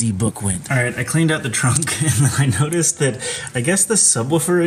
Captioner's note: laughing